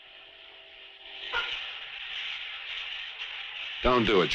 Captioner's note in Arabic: هسهسة الدش